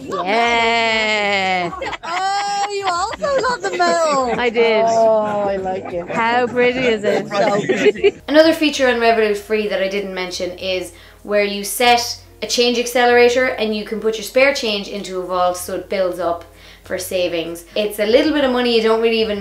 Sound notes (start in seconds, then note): 1.7 laughs; 7.7 group laughs